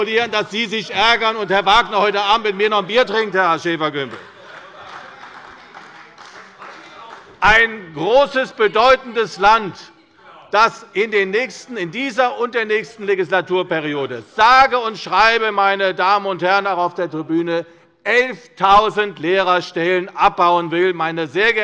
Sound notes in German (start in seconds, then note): 3.8 Beifall bei Abgeordneten der CDU